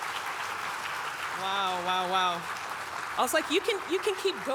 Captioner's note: audience clapping